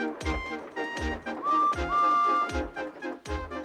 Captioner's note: tooting